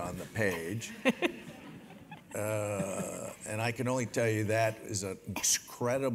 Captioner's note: laugh